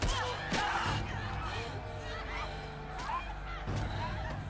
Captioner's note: crowd cheering; dramatic music